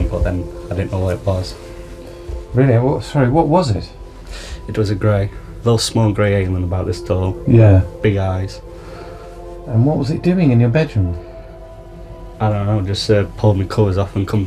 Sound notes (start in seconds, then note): 2.7 voiceover; 7.7 voiceover; 9.8 voiceover